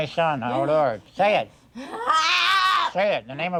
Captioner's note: screaming